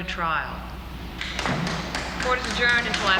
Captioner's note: clapping